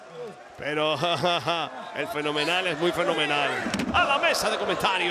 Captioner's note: laugh